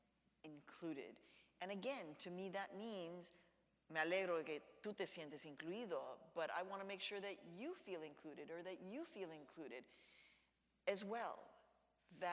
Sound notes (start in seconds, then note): 2.7 speaks in Spanish